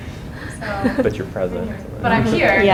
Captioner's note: laughs